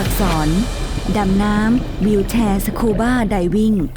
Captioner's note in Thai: เสียงน้ำ